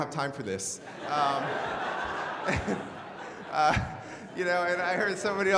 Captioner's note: crowd; laughing